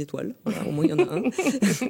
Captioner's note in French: rires